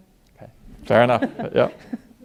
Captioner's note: audience laughing